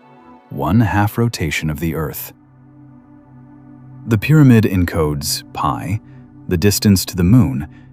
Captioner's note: breath